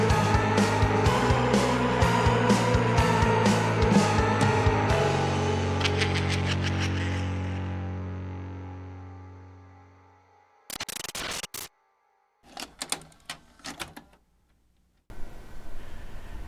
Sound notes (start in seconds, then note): 10.6 glitch sound effects; 13.6 clicking